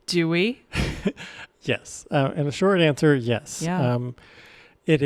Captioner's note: chuckles